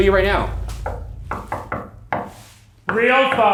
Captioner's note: knocking